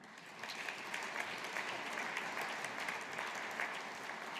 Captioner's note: audience applauding